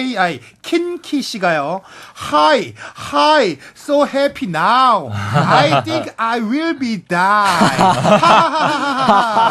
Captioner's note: reading fan msg in English